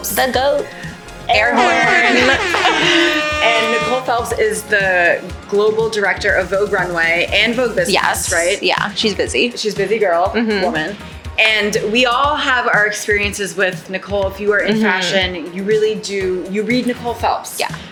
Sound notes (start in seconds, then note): 1.5 air horn blowing